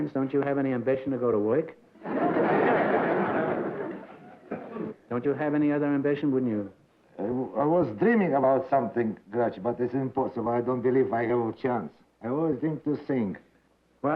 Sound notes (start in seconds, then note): 2.0 laughter